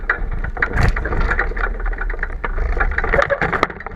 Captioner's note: rattling